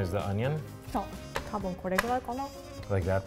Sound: speaks in foreign language

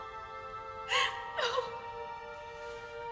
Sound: sobs

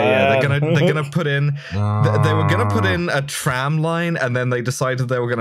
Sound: anger noise

